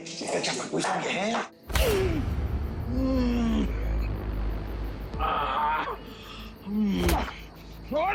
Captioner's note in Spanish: Quejidos